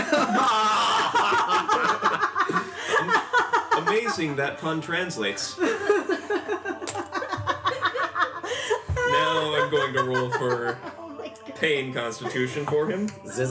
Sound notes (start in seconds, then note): 0.0 laughter, some of it pained